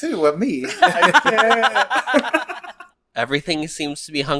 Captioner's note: laughs